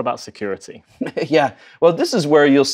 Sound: laughs

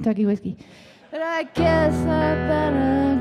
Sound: audience laughing

